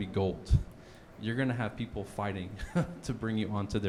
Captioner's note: chuckles